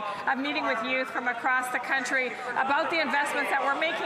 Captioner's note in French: voix de l'interprète